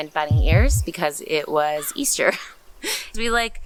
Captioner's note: laugh